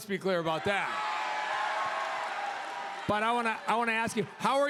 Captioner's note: crowd cheers